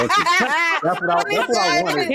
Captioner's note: laughter